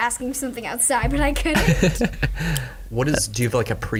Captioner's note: laugh